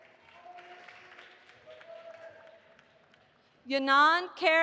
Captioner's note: audience applauding